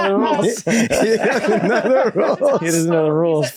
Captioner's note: all laughing